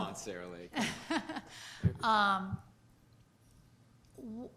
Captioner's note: chuckling